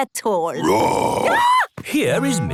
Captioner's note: roar, scream